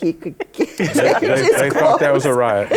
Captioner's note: laughter